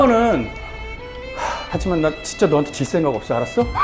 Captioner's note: haha